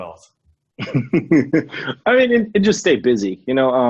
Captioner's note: laughs